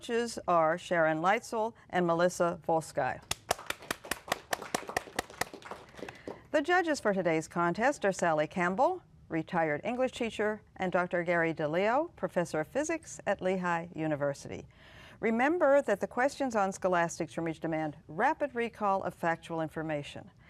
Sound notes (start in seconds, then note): 3.3 applause